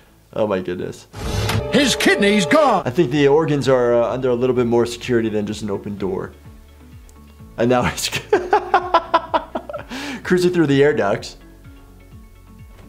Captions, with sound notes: Oh my goodness. - His kidney's gone. - I think the organs are under a little bit more security than just an opened door. And now it (laughing) cursing through the air ducts.